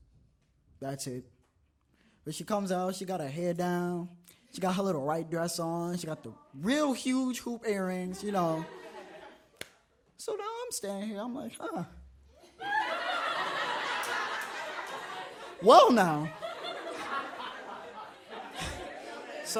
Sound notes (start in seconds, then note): 8.0 audience laughs; 12.5 audience laughs uproariously; 16.7 audience laughs